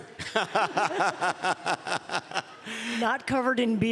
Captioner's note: laughs